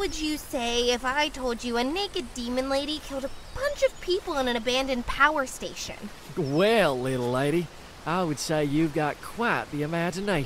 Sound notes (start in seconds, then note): 5.7 in a Texan accent